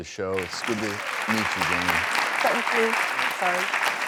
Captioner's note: applause